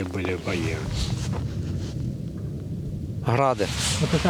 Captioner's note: rocket launches are heard in the distance